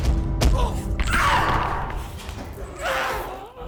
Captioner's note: dramatic musical score; masked figure groans; Abby shouts; masked figure groans